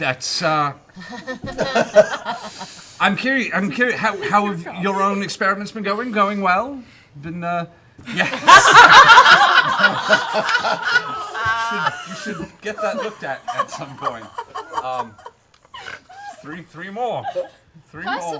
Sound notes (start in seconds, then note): 6.5 laughter